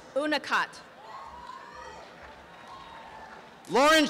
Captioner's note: applause